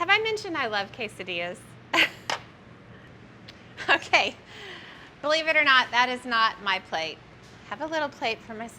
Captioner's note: snickers